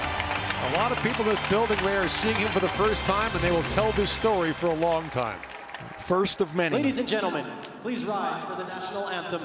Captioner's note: cheering and Applause